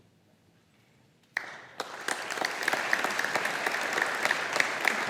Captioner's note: audience applauding